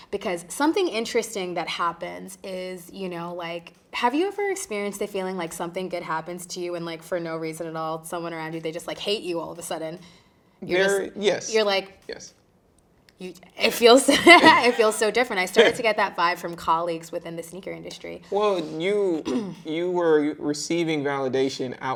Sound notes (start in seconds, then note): 14.1 chuckling